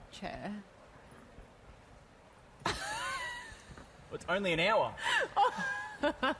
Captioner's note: laughter